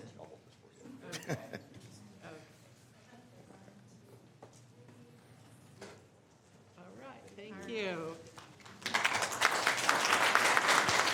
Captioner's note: applause